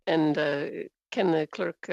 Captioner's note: speaking french